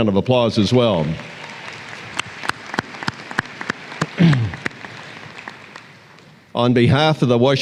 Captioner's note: applause